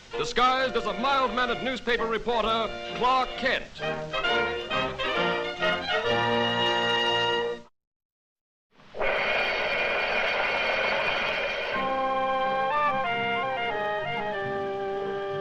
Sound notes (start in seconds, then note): 3.8 bright music; 8.8 flames hissing; 11.7 mysterious music